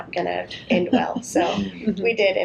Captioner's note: laughter